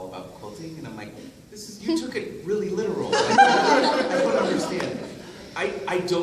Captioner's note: laughter